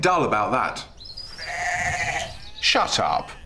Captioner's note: loud bleating